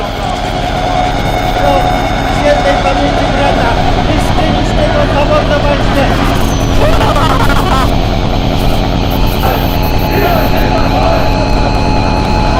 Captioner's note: eery background noise